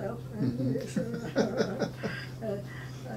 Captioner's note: laughing